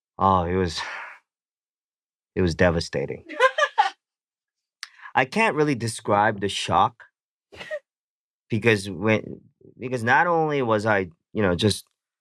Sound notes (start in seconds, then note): 3.3 laughs